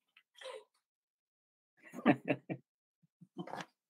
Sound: laughing

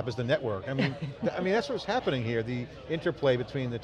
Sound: laughs

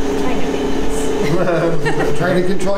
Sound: laughing

